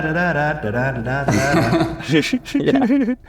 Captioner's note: laughs